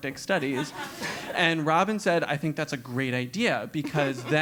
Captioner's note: laugh